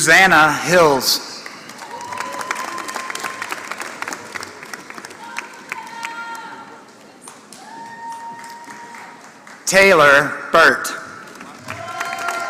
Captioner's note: applause; applause